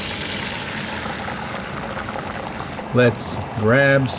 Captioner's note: egg sizzles